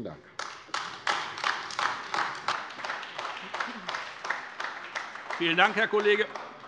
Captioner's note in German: Beifall AfD